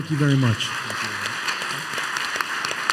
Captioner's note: applause